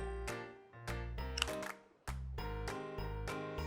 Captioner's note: snaps